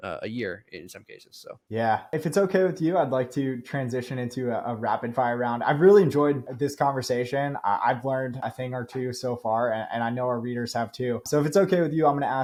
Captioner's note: speaking